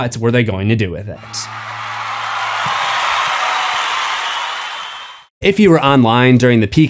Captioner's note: crowd cheering